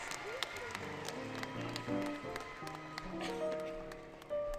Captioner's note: clapping; clapping, Music